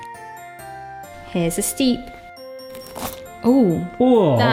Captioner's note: pastry crunching